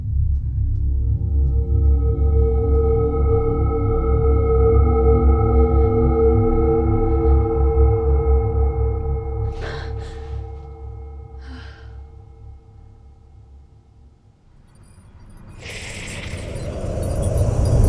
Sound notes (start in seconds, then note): 0.6 eerie music; 9.4 Shelby gasps; 11.3 Shelby sighs; 14.7 eerie music